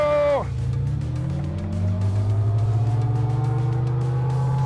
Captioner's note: motor revving